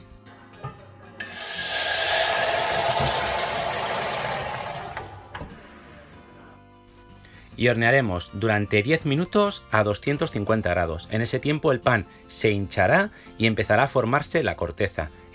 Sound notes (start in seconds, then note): 2.8 Aplausos